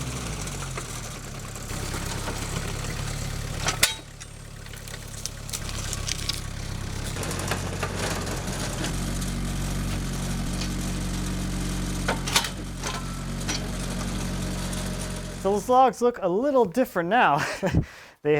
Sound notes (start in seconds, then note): 3.5 skidsteer arm clinking; 5.9 engine rumbling; 12.4 skidsteer arm clinking; 13.9 engine rumbling; 17.3 laughs